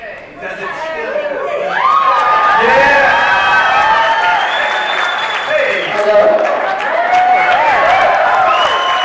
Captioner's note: cheering as Mics finally turn on